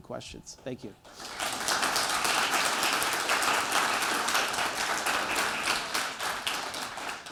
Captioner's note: applause